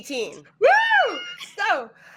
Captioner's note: cheering